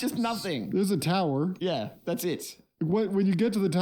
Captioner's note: none